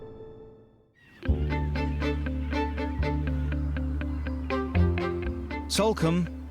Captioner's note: seagulls squawking; soft music